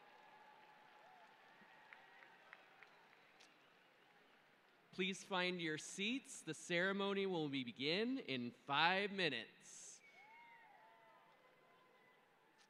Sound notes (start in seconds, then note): 5.3 applause